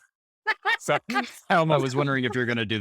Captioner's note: laughing